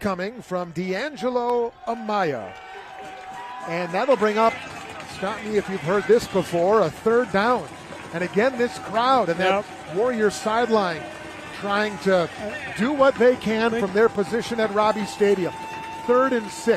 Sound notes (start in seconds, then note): 7.9 applause